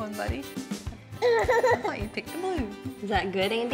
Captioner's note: giggles happily